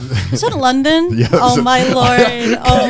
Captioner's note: laughs